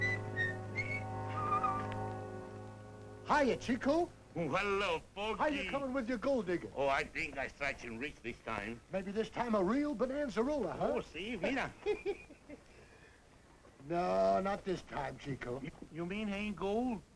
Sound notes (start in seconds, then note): 11.3 laughs